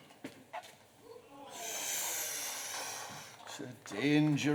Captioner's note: distant groan from crowd, sucks his teeth